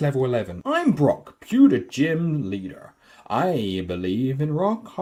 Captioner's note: texan Accent for some reason